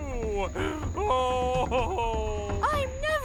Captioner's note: Howler sobs